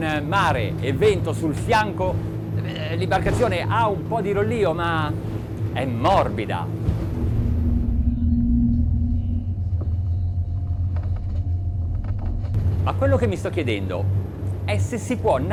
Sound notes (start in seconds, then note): 0.0 man speaks in foreign language; 7.3 purr of engine; 9.3 water hitting boat